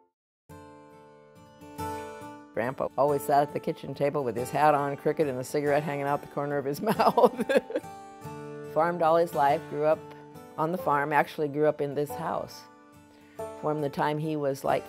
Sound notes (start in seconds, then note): 6.9 laughs